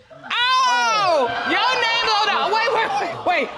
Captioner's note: audience exclaims